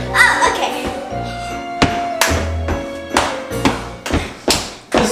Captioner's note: clapping